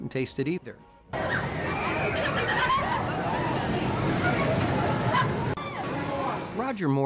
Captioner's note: rides whooshing; people laughing